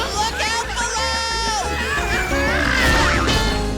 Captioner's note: screaming